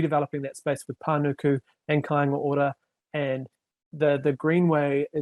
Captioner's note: speaking foreign language